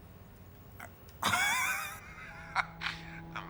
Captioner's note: laughs